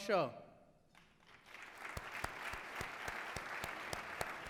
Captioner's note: applause